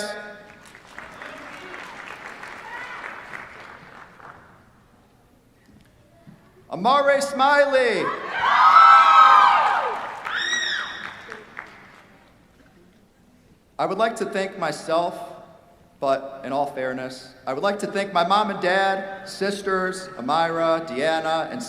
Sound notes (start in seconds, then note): 0.4 applause; 8.0 cheers, applause